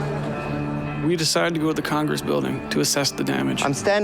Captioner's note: speaking In Foreign Language